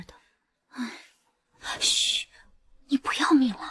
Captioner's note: sigh